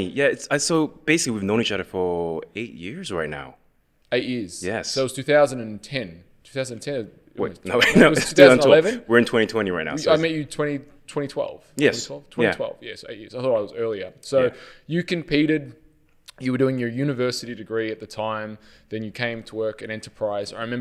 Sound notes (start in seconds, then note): 7.7 laughs